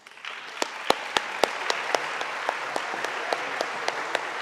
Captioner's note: audience applauding